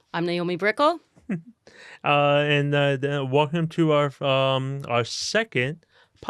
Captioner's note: chuckles